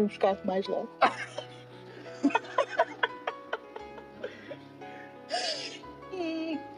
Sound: laughs

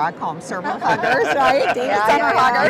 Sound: everyone laughs

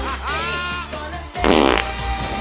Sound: fart

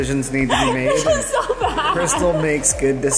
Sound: laughs

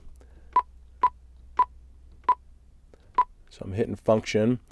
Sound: beeping

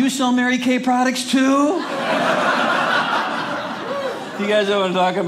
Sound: audience laughing

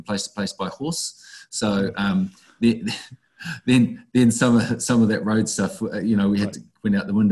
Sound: laughs

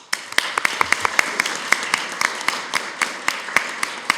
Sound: group applause

